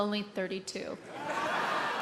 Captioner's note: laughter